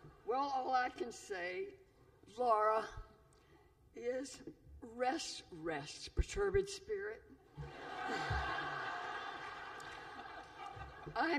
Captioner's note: laughter